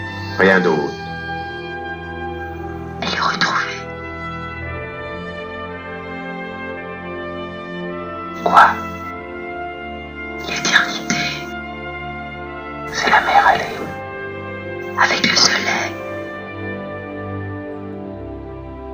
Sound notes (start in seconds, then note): 0.1 voiceover of man speaking in french; 2.8 voiceover of woman speaking in french; 4.6 mournful and reflective music; 8.2 voiceover of man speaking in french; 10.3 voiceover of woman speaking in french; 12.7 voiceover of man speaking in french; 14.7 voiceover of woman speaking in french; 16.6 mournful and reflective music